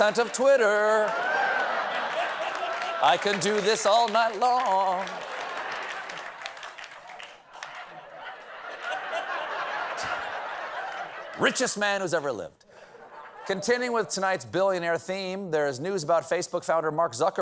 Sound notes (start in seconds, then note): 7.4 laughter; 7.9 applause